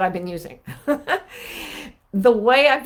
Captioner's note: chuckling